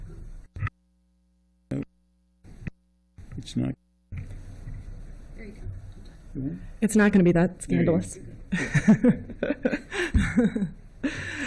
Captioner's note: laughter